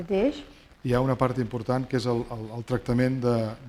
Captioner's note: speaking spanish